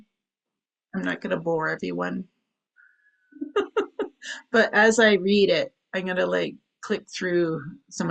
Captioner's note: chuckles